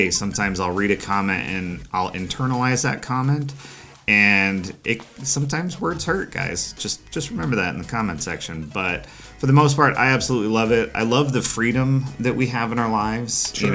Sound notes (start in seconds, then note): none